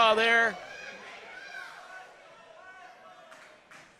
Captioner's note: crowd chanting